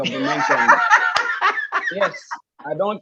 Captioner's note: laughs